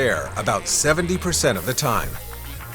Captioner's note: Vietnamese